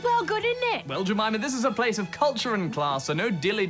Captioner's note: cockney accent; posh accent